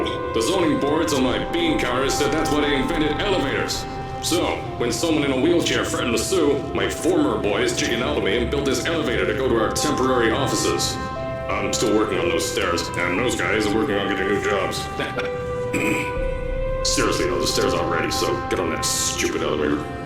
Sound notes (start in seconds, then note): 14.9 chuckles; 15.7 ahem